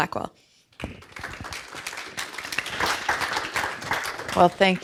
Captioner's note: audience applauds